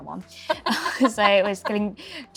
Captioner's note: Lauren laughs